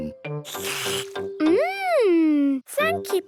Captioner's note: slurps